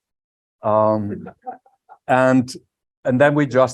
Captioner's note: laughter